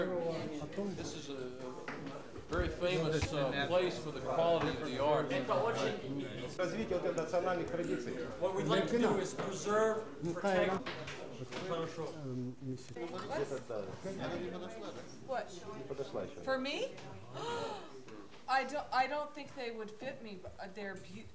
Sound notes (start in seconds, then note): 6.2 russian speech; 10.4 russian speech; 17.3 gasps